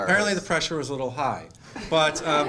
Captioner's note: laughter